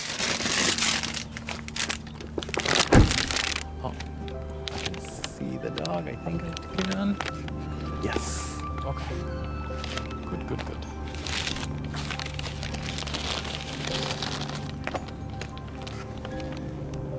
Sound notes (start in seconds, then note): 0.0 rustling; 2.8 car door closes